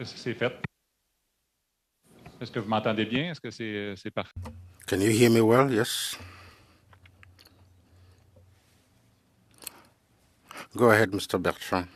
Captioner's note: speaking French